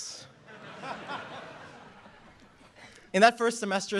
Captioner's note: laughter